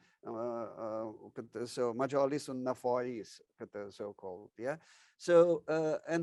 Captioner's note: speaks in foreign language